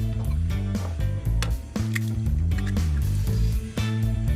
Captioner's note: egg cracking